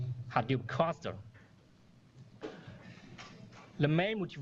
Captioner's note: pause